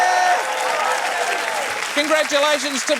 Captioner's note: cheering, applause